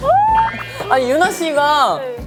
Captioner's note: squeal